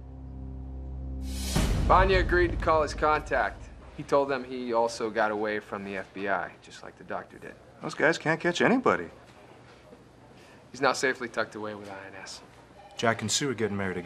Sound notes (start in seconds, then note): none